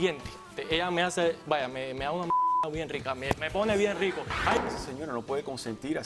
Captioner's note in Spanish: Bip